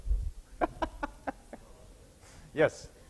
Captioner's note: laughing